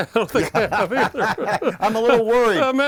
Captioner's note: laughing